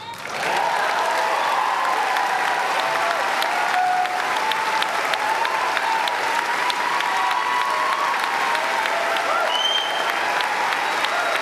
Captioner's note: applause